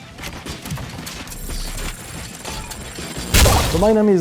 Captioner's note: beeping; clang!